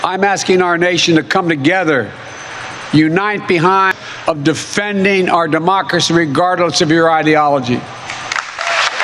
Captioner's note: cheering and applause